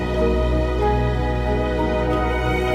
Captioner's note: none